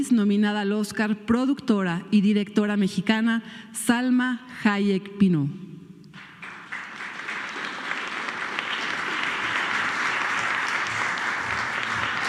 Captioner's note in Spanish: aplausos